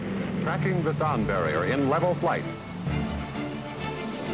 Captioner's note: radio voice